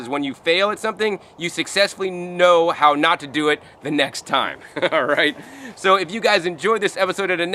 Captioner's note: chuckling